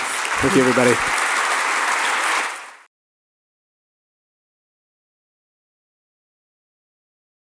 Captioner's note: audience applauds